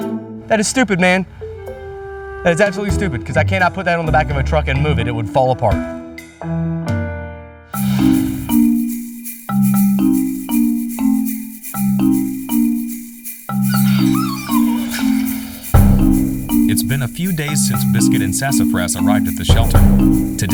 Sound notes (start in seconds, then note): 8.0 curious music; 13.6 Biscuit and Sassafrass whimpering